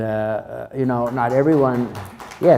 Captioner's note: crowd applauds